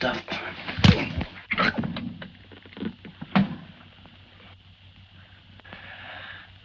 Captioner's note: punch thuds; Joe grunts